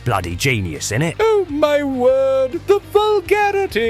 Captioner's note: pompous